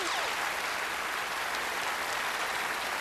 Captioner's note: applause